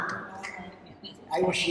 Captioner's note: chatter